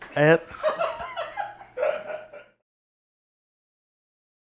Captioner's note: laughs